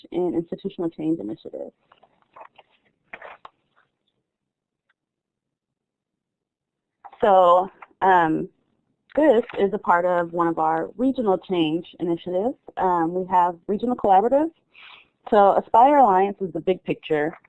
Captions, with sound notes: and institutional change initiatives. [SILENCE] So this is a part of one of our regional change initiatives. We have regional collaboratives. So Aspire Alliance is a big picture.